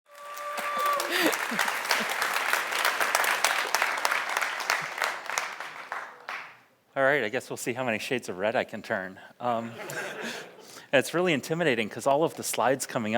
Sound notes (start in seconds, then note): 0.0 audience cheers; 0.0 audience applauds; 9.6 audience laughs; 9.7 laughs